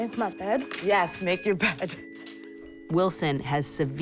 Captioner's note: chuckles